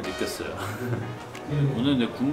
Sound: chuckles

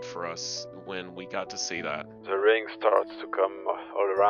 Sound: on the radio

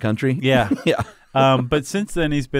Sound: chuckles

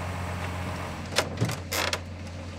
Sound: creaks

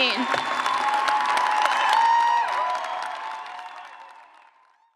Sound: cheers and clapping

